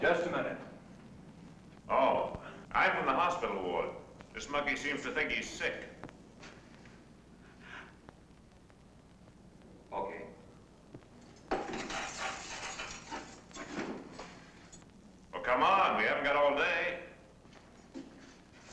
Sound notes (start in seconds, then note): 11.6 keys jingling